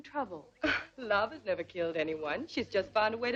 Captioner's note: scoffs